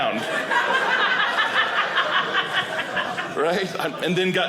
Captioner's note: audience laughing